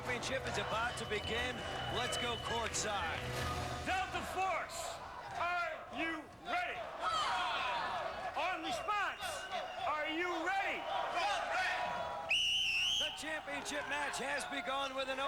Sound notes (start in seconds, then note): 6.8 cheers; 10.0 cheers; 12.2 whistle blows